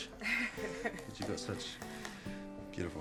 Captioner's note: Kate chuckles